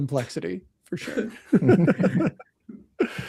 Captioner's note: laughter